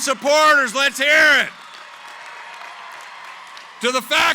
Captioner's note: cheering, applause